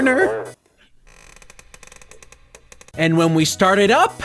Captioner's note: creepy laughter; creaking sound